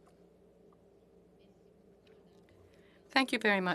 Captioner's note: speaking French